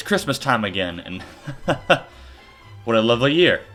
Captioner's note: laughing